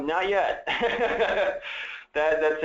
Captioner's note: laughs